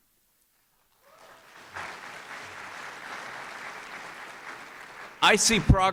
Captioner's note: applause